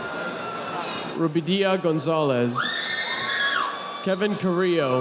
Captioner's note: audience applauding